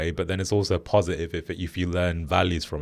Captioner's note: none